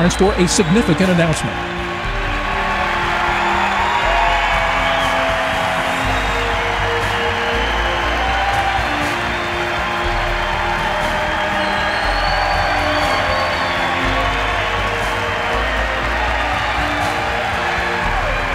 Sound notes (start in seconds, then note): 5.1 cheering